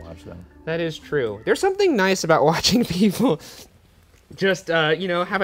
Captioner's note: laughs